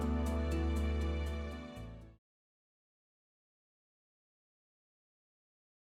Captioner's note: wave